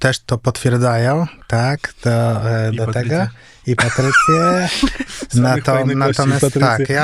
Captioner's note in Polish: śmiech